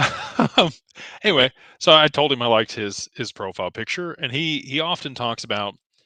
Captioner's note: laughter